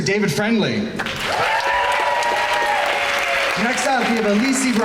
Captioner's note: crowd cheering